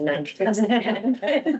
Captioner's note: laughing